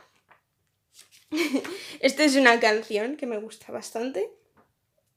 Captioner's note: giggle